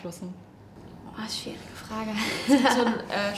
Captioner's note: laughs